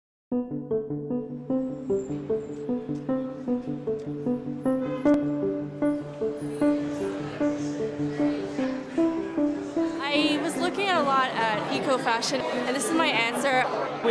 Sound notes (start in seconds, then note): 6.1 background chatter